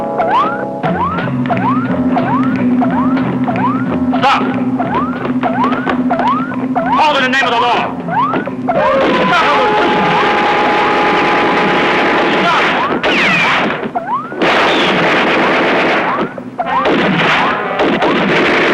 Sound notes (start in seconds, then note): 9.0 guns firing; 10.5 dramatic music; 13.7 electronic beeping; 14.2 guns firing